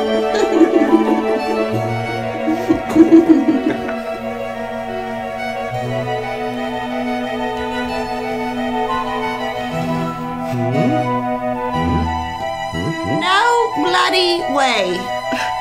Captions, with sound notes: (Laughs) Hmm? Hmm hmm? No. Bloody. Way.